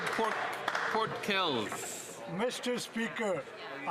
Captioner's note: applause